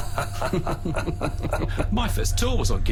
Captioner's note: laughter